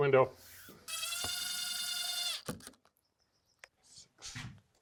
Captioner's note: drilling sounds